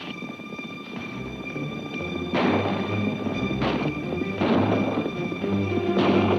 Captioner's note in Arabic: أصوات البنادق; ضربات حوافر